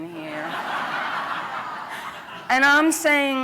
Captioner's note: laughter